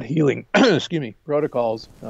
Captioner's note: coughs